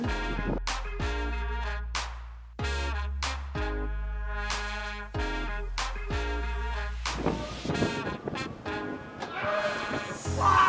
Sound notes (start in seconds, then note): 0.1 upbeat horn music; 7.0 wind blowing